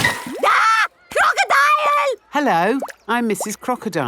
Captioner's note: screams